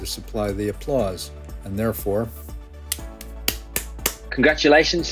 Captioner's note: claps